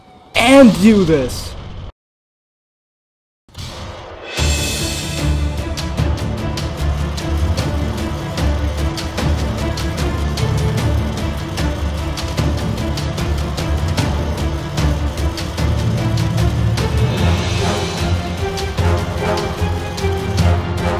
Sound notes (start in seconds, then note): 3.5 multiple Rockets Fire; 4.0 dramatic Music